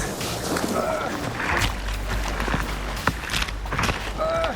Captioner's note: grunting